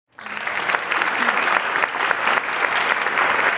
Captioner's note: applause